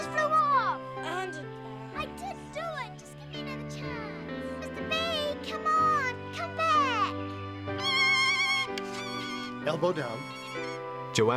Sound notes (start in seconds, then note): 7.7 squawking